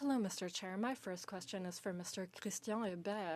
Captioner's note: speaking in French